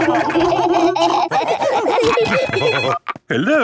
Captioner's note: laughing; phone ringing